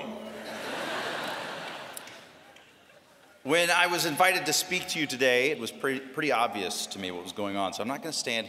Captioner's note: laughter